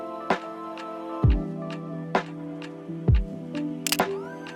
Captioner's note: camera clicks